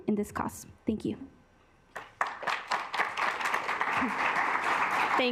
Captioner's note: assembly clapping